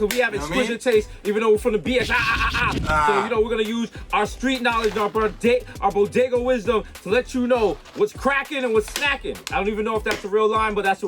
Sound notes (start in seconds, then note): 0.0 Mero claps; 1.8 record scratches